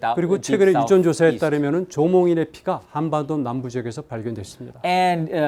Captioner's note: speaking in Korean